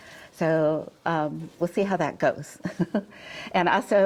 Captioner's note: chuckles